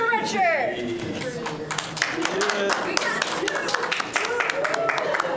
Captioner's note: applause